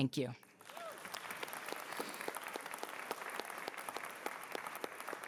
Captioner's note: cheering